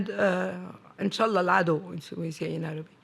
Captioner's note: speaking arabic